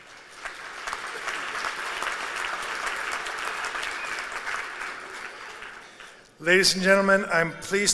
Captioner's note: applause